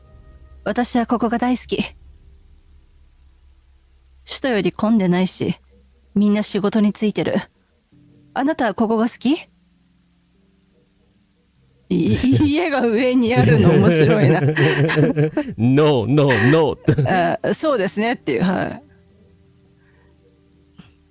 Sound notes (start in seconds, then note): 13.2 laughs